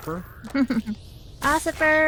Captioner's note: giggles